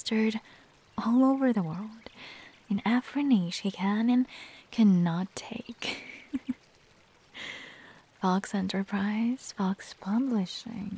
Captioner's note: chuckles